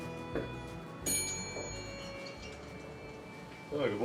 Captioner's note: rings bell